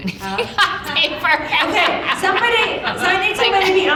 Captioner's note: audience laughing